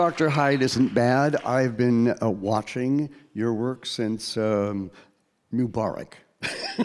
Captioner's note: laughing